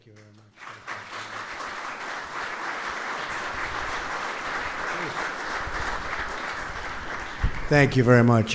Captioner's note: applause